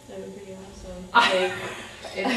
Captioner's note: laughter